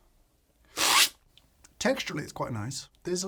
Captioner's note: slurps